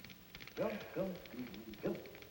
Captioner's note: humming